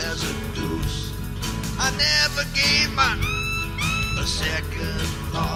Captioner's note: beep beep